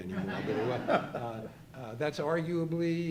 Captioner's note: audience laughing